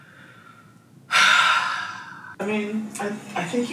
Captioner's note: breathing deeply